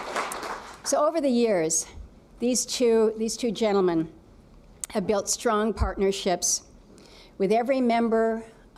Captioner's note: applause